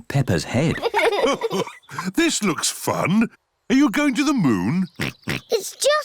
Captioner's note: chuckles; oinks